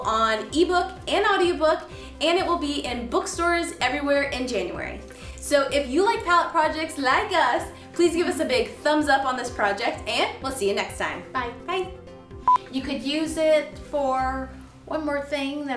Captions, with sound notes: on ebook and audiobook. And it will be in bookstores everywhere in January. So if you like pallet projects like us, please give us a big thumbs up on this project and we'll see ya next time. - Bye - Bye (beep) - You could use it for one more thing,